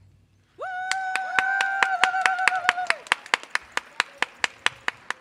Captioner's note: audience cheers and applauds